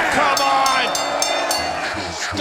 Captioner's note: bell rings